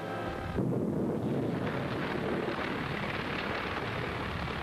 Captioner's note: steam booms